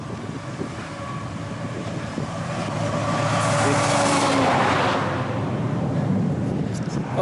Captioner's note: passing Traffic